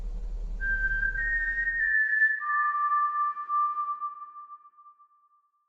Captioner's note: Mockingjay whistle call